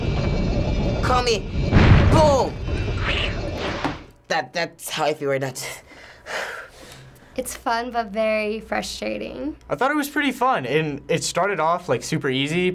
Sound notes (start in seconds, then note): 5.8 pants, sighs